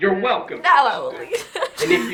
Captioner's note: laughs